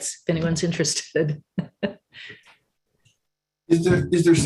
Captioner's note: laughs